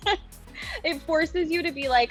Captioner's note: laughs